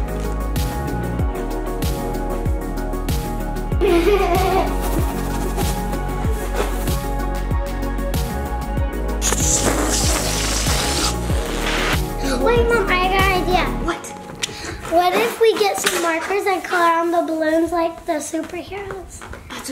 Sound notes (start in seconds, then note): 0.3 light music continues; 3.8 laughs; 9.2 balloons hiss